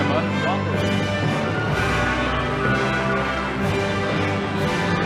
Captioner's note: audience applauding